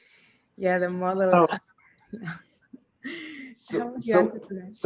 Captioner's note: chuckles